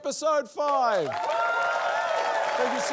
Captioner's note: cheering, applause